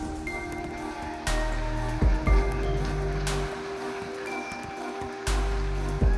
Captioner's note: audience applauding and cheering; upbeat music